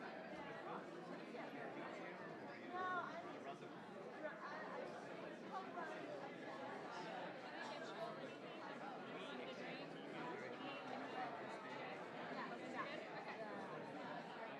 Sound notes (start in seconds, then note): none